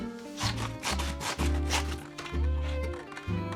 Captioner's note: paper tearing